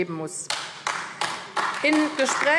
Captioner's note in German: Beifall AfD